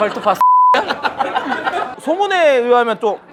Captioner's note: laughing